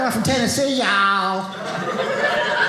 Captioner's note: audience laughing